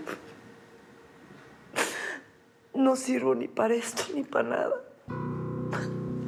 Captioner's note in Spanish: sollozos